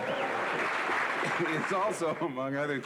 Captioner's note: laughter